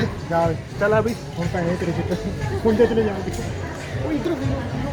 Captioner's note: laugh